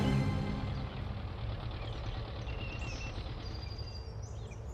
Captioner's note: birds chirping